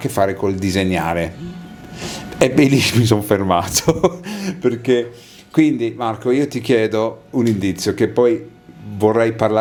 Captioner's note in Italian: sbuffare